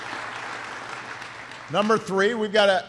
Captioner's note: applause